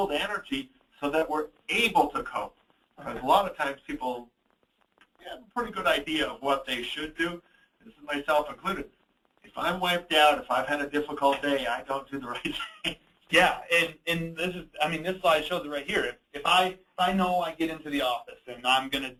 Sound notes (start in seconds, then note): 14.0 laughs